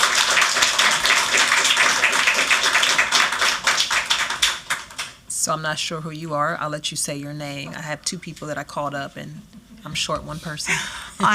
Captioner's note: applause